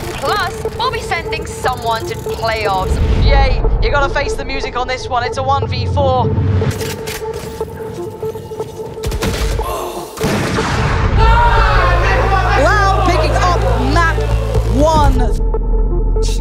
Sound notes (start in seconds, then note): 11.1 team cheering